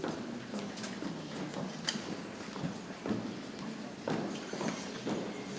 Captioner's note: people chattering softly